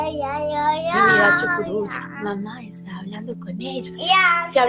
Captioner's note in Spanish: ha estado tarareando una canción